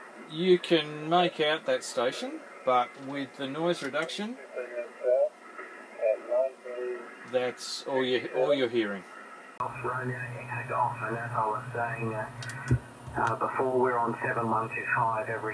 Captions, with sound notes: you can knock out that station but with the noise reduction that's all you're hearing (radio plays)